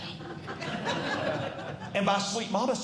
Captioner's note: audience Laughing